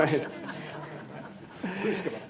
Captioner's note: laughter